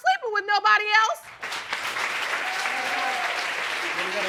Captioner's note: audience applauding